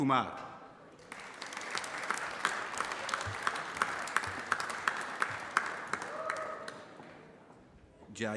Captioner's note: applause